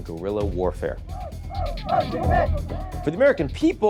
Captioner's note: protestors shouting